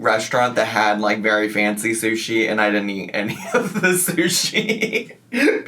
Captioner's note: laughs